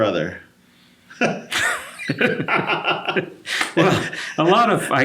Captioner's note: both laugh